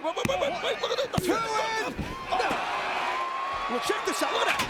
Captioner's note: crowd cheering